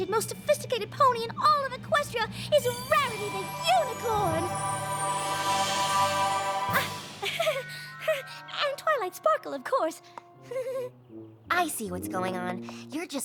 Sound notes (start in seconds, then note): 6.8 giggles nervously; 10.5 giggles nervously